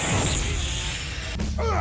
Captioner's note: child laughing